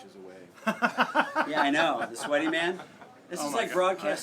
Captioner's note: laugh